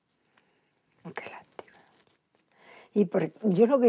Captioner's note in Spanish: susurrando